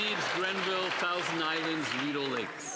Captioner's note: some Applause